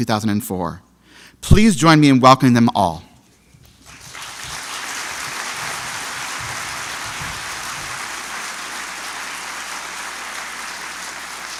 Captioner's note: applause